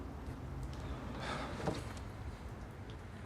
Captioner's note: he sighs